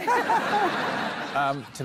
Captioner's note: laughter